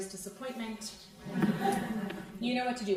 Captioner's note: crowd laughing